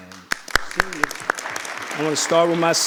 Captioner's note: audience applauding